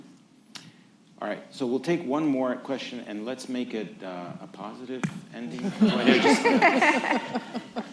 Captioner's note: laughter